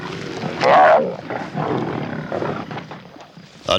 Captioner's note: roars